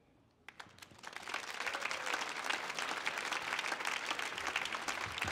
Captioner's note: audience clapping